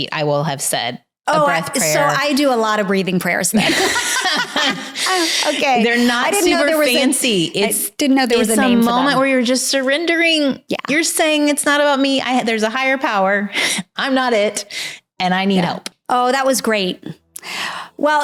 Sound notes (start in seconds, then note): 3.6 both laughing